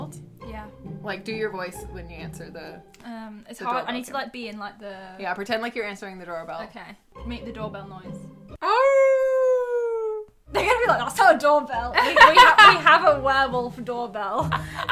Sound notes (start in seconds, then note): 8.9 howls; 12.0 laughs